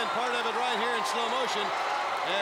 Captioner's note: crowd chatter